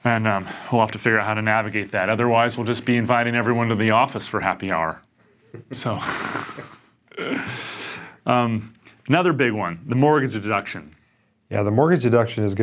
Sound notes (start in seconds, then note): 5.5 laugh